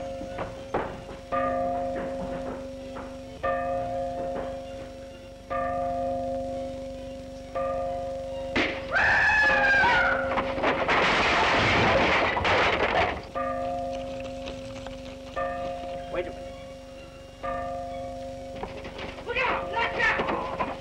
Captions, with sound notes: [bell ringing] [neighing] Wait a minute. Look out!